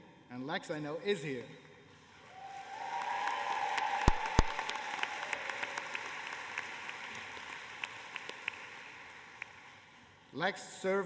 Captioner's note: applause